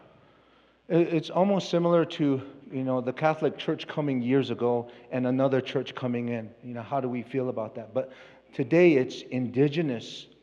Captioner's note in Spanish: Expositor habla en inglés